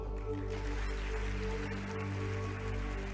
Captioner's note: applause